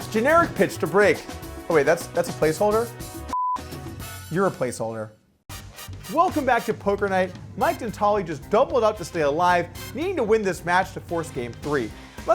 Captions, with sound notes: - Generic pitch to break. Oh wait, that's a placeholder? (beeps) You're a placeholder. - Welcome back to Poker Night. Mike Detale just doubled it up to stay alive, needing to win this match to force game three.